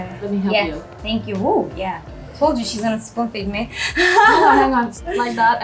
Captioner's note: laughing